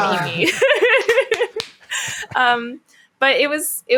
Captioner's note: laughing